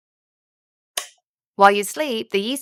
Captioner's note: light switching off